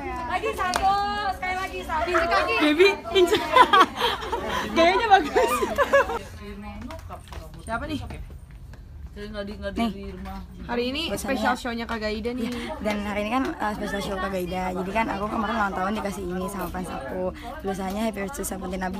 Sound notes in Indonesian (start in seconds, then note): 1.8 Tertawa